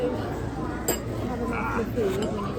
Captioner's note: people murmuring